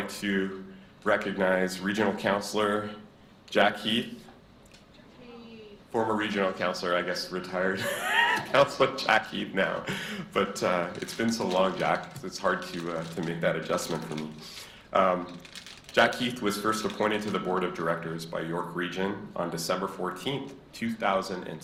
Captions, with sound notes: I'd like to recognize Regional Councilor Jack Heath. Former Regional Councilor, I guess, (giggles) retired Councilor Jack Heath now. But it's been so long, Jack, 'cause it's hard to make that adjustment for me. Jack Heath was first appointed to the Board of Directors by York region on December 14th, 2006.